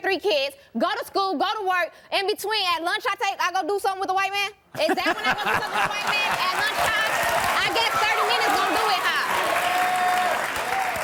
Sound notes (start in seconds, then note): 4.8 Maury laughing; 7.6 crowd cheering